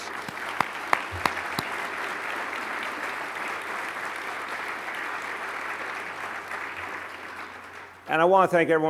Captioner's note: applause